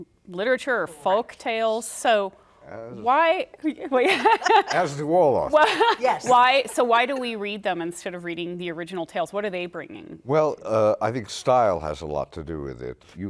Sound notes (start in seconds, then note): 2.1 laughter